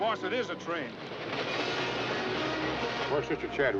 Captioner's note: train cars rumbling